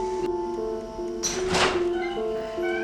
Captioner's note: door Opening